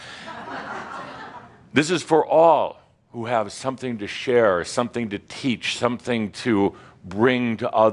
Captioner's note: some chuckles